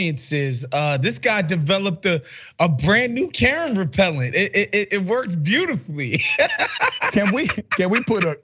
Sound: laugh

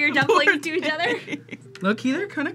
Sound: laughs

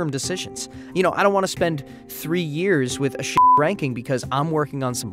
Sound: beeps

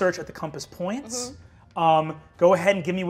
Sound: none

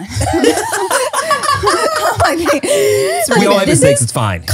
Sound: everyone laughs

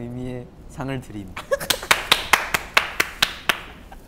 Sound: applause

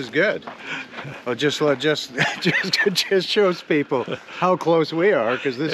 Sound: Eugene laughing

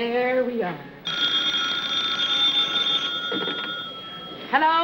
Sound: telephone rings

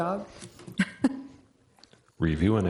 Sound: chuckles

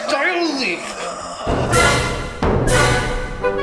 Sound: Kevin gasping

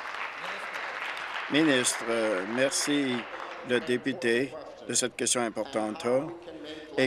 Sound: applause

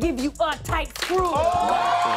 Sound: audience "Ohs"; cheers and applause

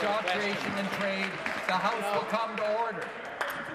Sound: applause

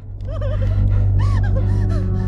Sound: crying

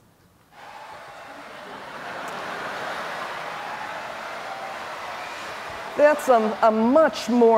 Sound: laughter

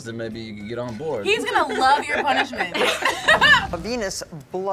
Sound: group laughs

